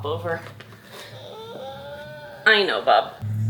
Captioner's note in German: DJ weint